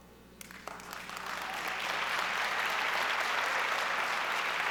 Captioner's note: audience applauds